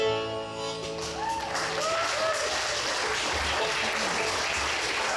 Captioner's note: audience cheers